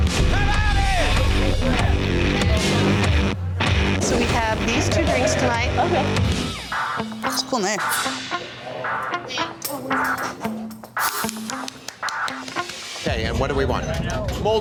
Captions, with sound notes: Come on in! [ROCK MUSIC] So we have these two drinks tonight. OK. Cool knife. [HANDS CLAPPING] OK. And what do we want?